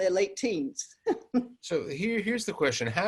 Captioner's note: laughs